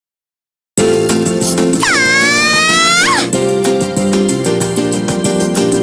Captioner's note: screams with joy